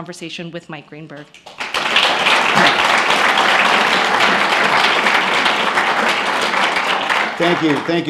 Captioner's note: applause